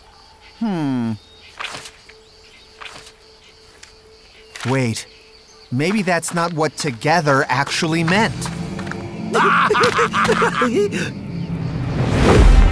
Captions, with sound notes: Hmm. Wait. Maybe that's not what "together" actually meant. [both laughing]